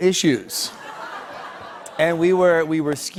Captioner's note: light laughter